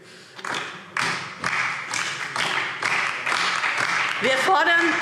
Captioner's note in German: Beifall DIE LINKE und vereinzelt SPD